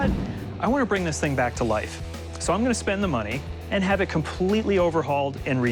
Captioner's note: none